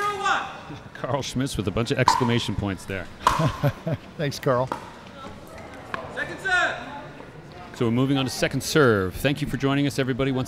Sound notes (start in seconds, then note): 3.2 chuckling